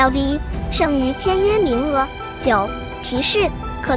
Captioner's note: notification